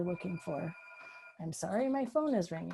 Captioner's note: phone ringing